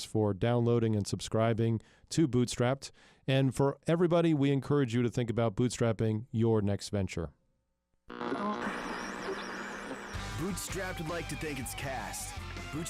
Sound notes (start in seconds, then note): 8.1 radio static